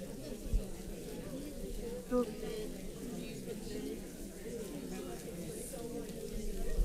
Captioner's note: paper crinkling and audience chattering